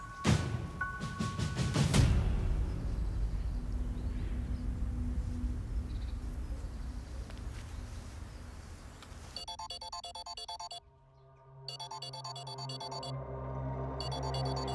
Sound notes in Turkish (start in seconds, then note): 9.4 Telefon çalıyor